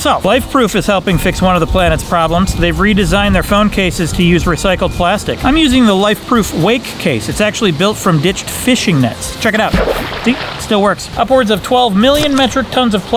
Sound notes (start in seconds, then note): 9.8 water splashing